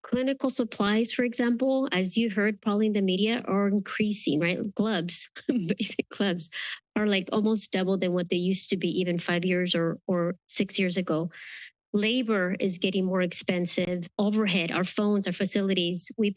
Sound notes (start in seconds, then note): 5.4 chuckles